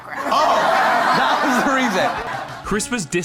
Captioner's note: laughter